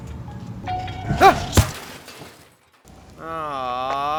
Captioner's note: laughing; shattering; shouts; lamenting